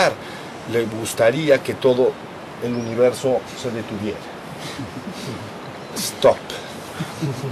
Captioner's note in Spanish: risas